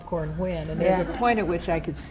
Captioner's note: laughter